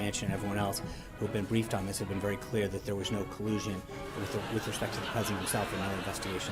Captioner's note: raucous laugh track